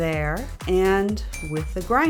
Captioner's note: ding